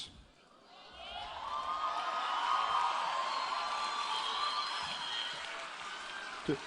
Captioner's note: applause and Cheering